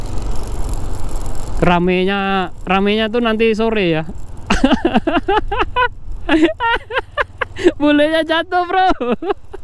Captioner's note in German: Lacht